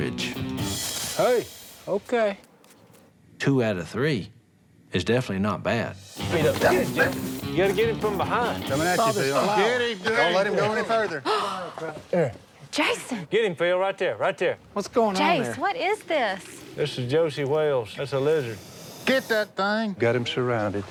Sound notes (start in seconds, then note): 0.6 monitor hisses; 11.2 gasps